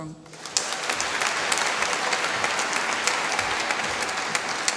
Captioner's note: applause